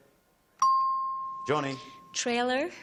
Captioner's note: ping